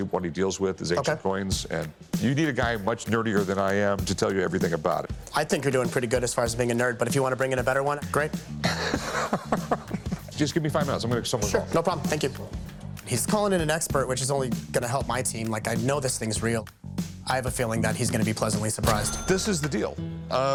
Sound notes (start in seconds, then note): 8.6 laughs